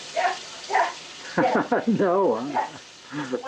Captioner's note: laughs